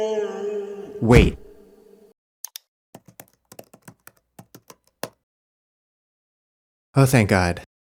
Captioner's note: keyboard clicking